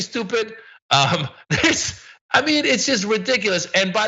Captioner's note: laugh